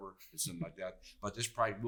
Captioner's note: chuckles